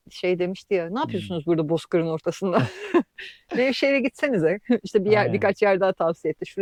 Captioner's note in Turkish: kahkaha